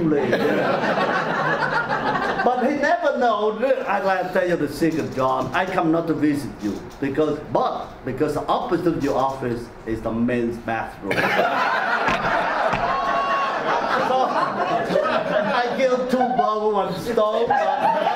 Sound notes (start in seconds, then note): 0.0 audience laughs; 11.1 audience laughs; 17.2 audience laughter drowns out